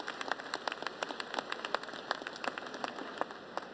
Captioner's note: applause